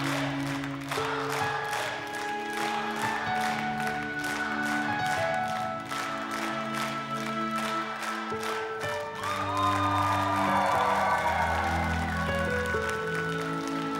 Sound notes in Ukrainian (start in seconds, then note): 3.3 оплески